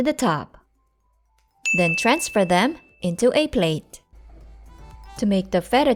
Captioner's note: ding